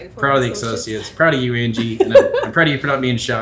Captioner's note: laughs